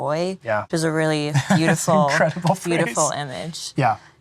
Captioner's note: laughing